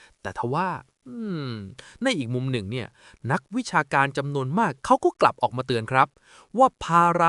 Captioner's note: hmm-mm